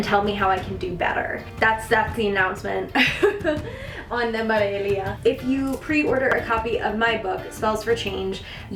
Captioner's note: chuckle